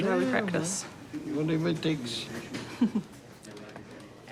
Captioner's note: chuckles